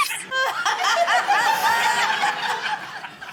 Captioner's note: laughter